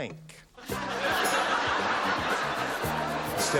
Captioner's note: laughter